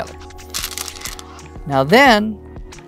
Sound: stones rattling

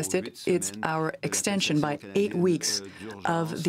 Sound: speaking French

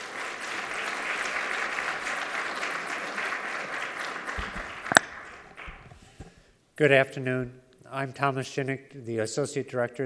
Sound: applause

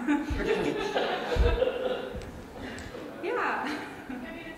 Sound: laughs

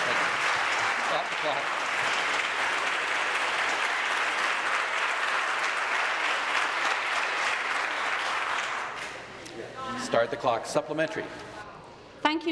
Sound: applause

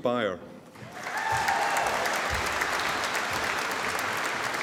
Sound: audience applauding

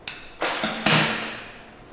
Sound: clang

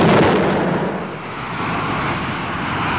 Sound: explosion; whoosh

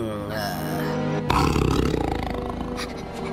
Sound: growl

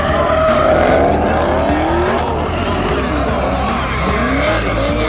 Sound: engine roaring

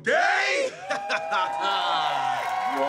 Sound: laughing

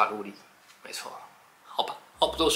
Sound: confident

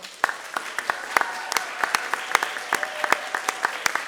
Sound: applause

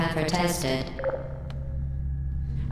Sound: intercom turns off

